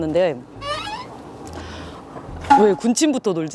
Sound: gulp

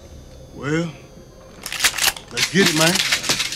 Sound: gun cocking; guns cocking

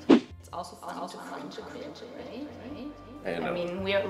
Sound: echoing

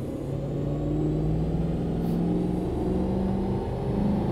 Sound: engine noise

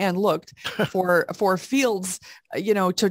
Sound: chuckles

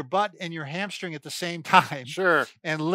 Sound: chuckling

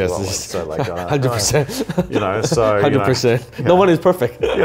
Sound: laughing

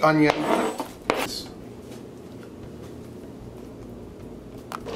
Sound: knife scrapes cutting board

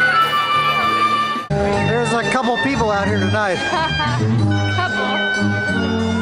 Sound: live music; laughter

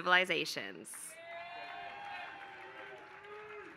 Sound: applause

